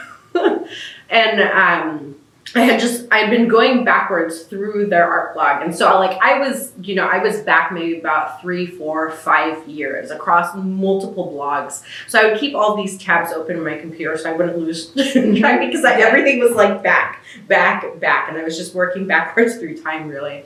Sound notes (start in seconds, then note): 15.0 laughs